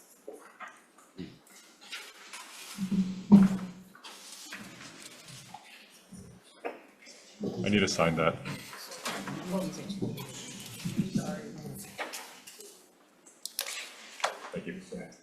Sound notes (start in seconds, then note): 8.4 chair's moving around; 11.1 papers being moved around